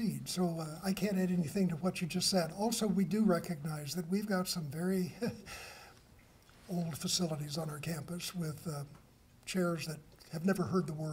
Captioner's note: chuckles; laughter